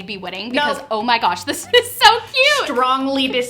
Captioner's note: laughs